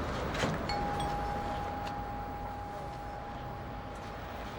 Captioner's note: doorbell ringing